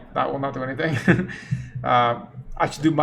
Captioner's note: chuckles